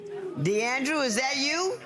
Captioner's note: audience members exclaiming